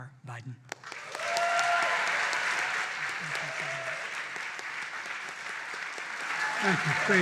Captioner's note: applause